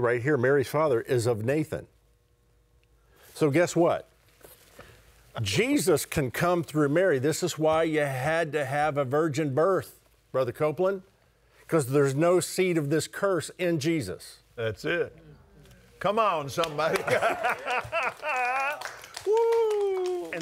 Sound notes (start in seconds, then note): 16.6 congregants applauding; 16.9 laughing